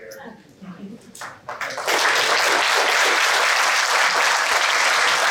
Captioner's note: applause